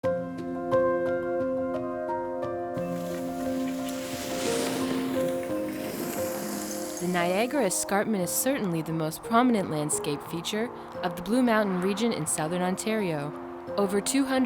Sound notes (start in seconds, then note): 2.8 skis through snow